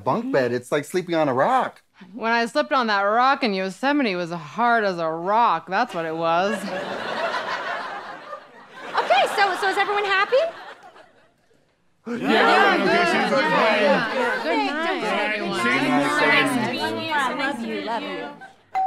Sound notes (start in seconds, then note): 6.0 audience laughing; 12.0 various noises of agreement